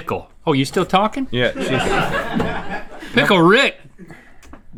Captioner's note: laughing